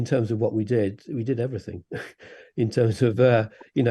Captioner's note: laughs